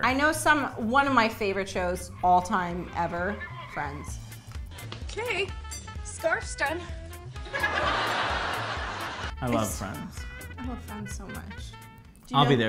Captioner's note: clapping